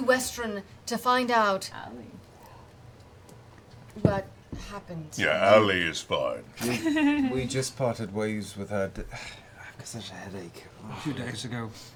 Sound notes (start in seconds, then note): 8.5 groans